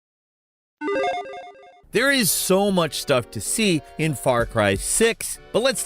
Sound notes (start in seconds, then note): 0.8 logo beeps